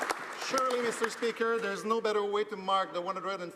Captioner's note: applause